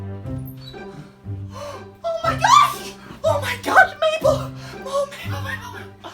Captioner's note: gasps